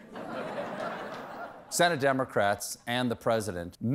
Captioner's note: laughter